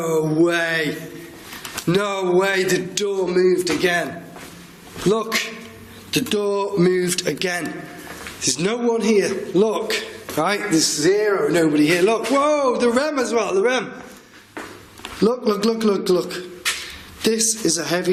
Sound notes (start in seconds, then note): none